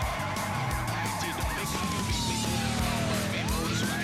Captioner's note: siren blaring; tires screeching